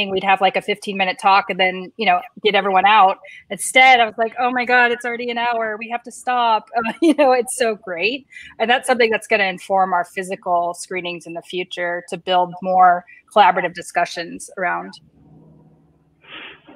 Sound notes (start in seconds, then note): 7.0 laughs